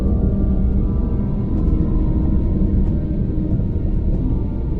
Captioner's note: sub whirring